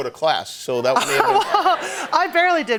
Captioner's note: laughter